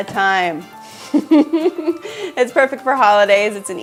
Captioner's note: laughing